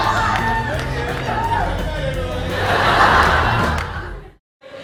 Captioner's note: cheering; laughter